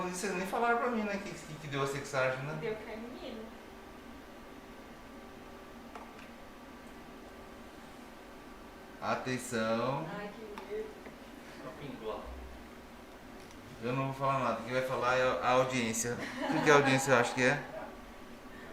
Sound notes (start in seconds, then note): 16.2 laughs